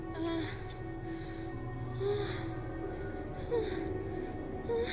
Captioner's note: Cheyanne's moans get louder